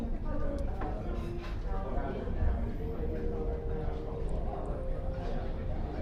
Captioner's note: noise of people talking in a cafe